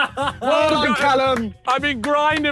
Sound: claps

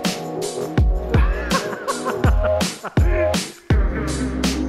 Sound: laughing

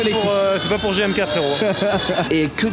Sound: laugh

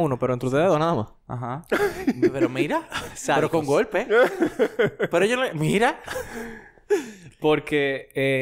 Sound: laughs

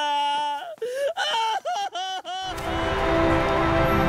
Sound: crying

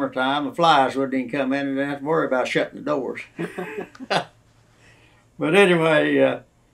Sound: laughter

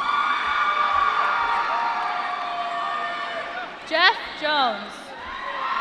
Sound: applause

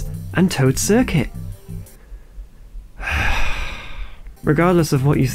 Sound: sigh

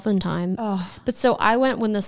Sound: sighs

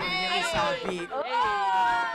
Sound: indistinct chatter

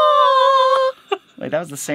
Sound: laughing

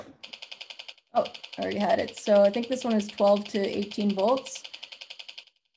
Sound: beep beep beep

